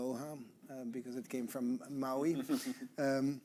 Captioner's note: chuckling